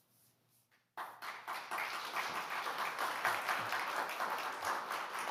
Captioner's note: audience applauding